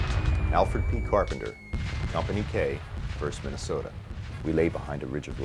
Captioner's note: voiceover